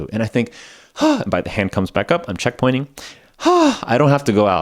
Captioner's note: sigh